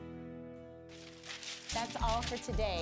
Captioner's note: paper shreds